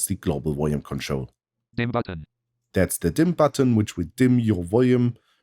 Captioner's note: automated voice